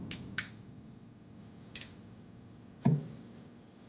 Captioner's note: light flicks